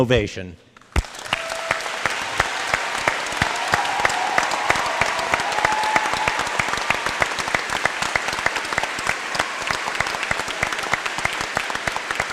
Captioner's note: applause